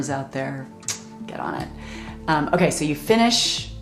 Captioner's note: smacks lips